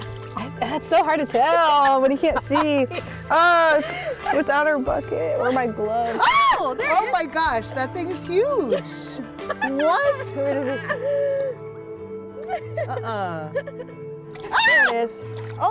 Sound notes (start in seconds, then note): 0.0 water splashing; 6.1 exclaiming in shock; 10.5 laughing; 14.5 exclaiming in shock